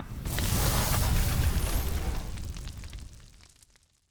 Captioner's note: fire roaring